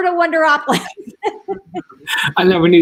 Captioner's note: laughs